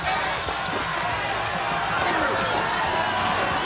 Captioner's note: crowd shouting